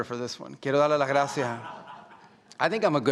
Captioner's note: speaking Spanish